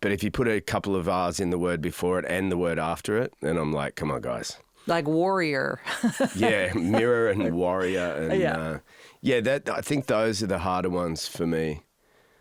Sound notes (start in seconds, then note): 5.8 laughs